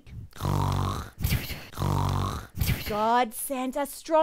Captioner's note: loud snoring